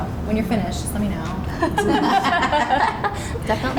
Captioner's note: laughs